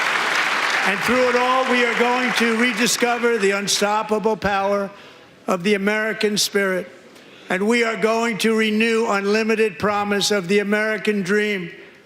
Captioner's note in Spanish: aplausos